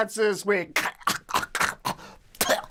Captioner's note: coughs